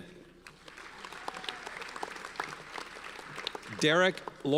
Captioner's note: audience applauds